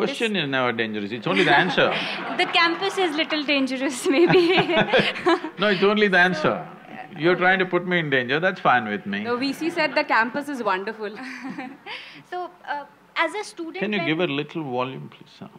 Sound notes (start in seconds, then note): 1.3 laughter; 4.0 both laugh; 11.1 laughs